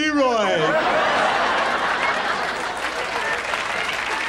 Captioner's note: audience laughs